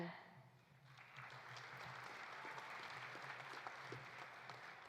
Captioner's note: audience applauding